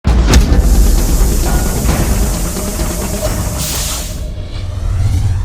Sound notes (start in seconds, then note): 0.5 steel gears turning